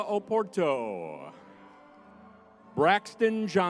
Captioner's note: crowd cheering